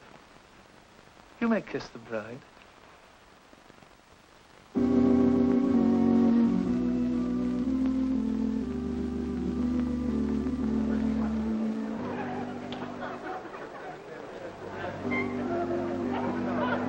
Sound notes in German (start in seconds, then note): 11.8 Gelächter und Plauderei